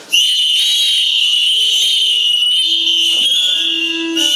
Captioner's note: several whistles being blown at once